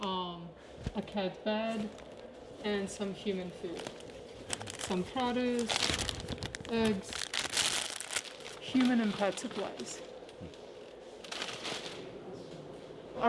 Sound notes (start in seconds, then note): none